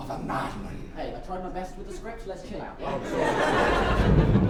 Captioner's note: in jacks voice